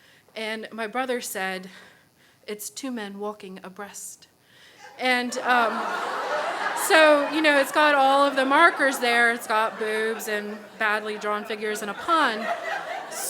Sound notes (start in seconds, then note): 4.7 crowd laughs